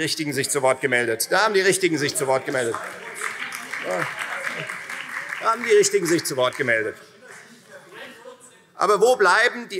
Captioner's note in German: Beifall Freie Demokraten, BÜNDNIS 90/DIE GRÜNEN und vereinzelt CDU